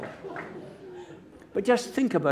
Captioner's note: applause